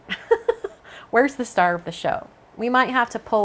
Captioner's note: laughs